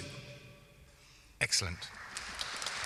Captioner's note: applause